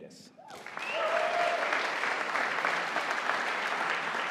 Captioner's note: audience applauding